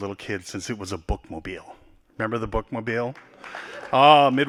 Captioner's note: applause